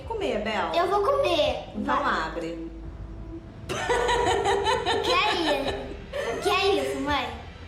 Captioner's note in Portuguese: risada